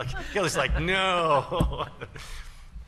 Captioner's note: laughter